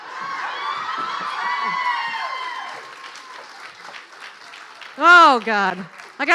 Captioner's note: clapping